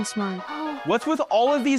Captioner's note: gasping